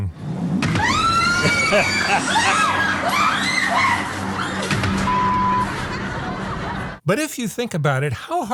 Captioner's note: screams